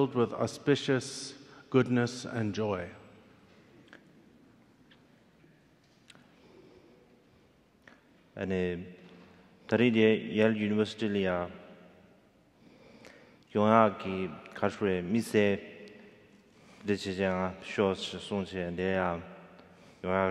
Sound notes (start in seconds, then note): 8.5 speaking in foreign language